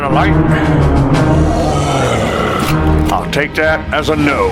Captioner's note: all ems growling